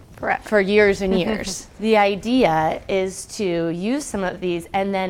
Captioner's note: laugh